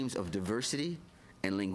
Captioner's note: speaking French